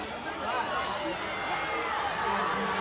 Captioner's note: crowd chattering